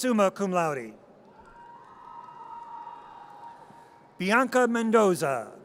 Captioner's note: audience cheers